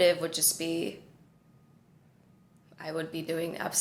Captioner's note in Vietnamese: Im lặng